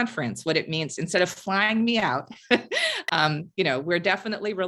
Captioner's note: laugh